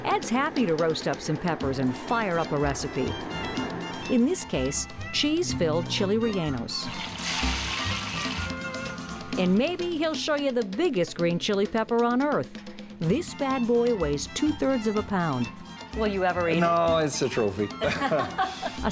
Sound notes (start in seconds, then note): 6.8 food sizzling; 17.7 both laughing